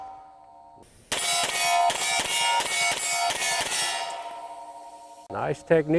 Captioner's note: shots continue firing at steel target